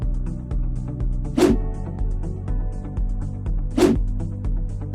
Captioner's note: graphics whooshing